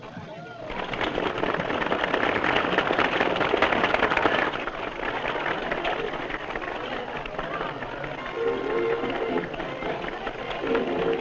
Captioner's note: applause